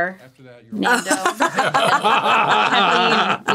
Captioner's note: all laughing